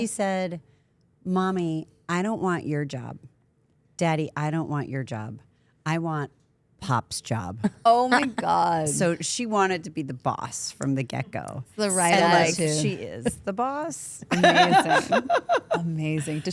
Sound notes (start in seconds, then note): 14.3 laughs